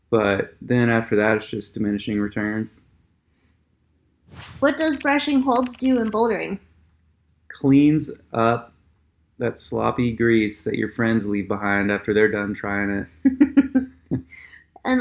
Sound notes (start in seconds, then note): 4.8 keyboard clicking; 13.3 both laugh